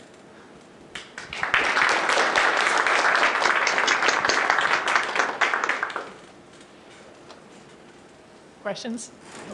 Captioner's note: applause